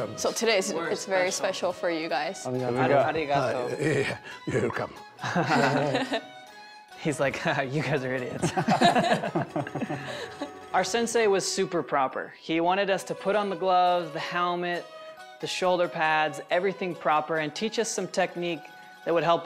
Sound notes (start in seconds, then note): 4.3 speaking japanese; 5.2 laughter; 8.4 laughter